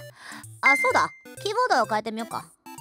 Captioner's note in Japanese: 閃く音